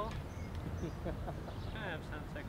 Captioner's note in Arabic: يضحك